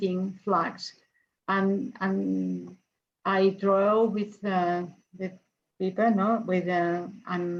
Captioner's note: speaks in foreign language